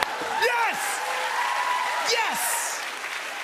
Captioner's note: cheers and applause